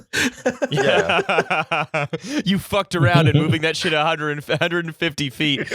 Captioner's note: laughter